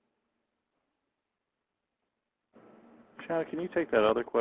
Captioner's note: pause